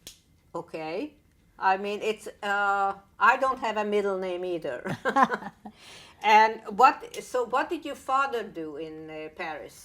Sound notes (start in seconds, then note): 4.9 laughing